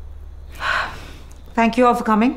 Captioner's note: Exhales